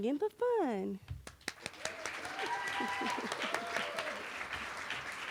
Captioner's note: cheering